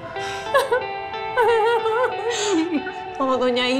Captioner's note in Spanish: Sollozos